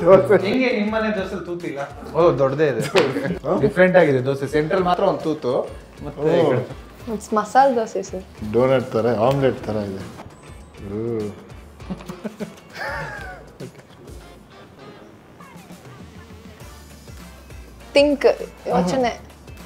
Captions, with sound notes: Adenge nim dose thooth ila? Oh doddadee ide Different agide dose...centralli maatra ond thoothu! It's masala dose sir Donut thara, Omlet thara ide Ugh!! (Laughing) THINK YOCHANE